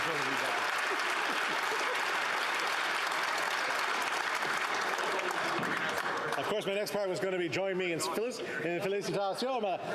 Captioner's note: applause